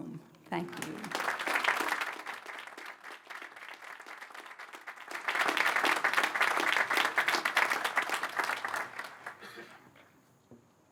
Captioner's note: applause